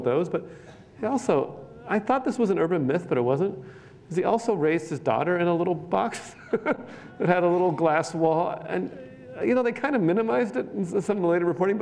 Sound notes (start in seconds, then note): 6.1 laughs